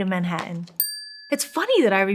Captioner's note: bell dings